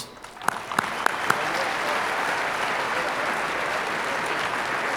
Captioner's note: audience applauding